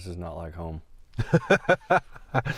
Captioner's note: laughing